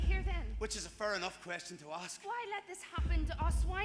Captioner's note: none